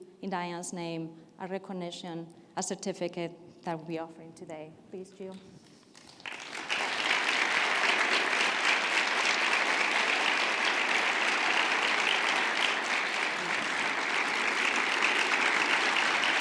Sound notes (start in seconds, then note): 6.3 audience applauding